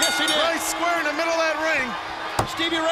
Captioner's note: bell ringing; crowd cheering